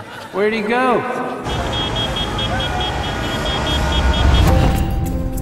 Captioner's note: horns honking; apprehensive music